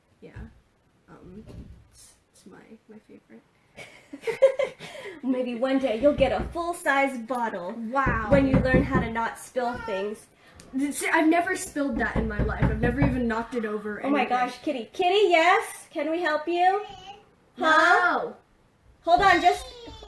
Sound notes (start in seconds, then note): 3.8 laughing; 11.6 knocking; 19.9 whining